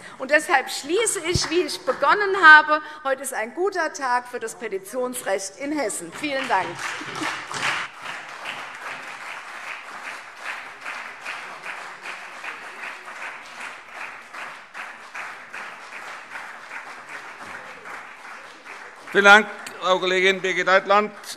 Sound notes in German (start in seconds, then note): 7.4 Beifall CDU, BÜNDNIS 90/DIE GRÜNEN, SPD und Freie Demokraten